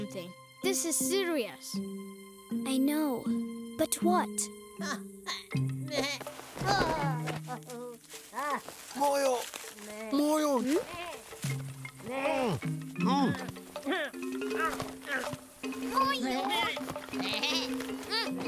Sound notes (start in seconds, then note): 4.2 bleating; 12.0 grunting; 17.1 bleating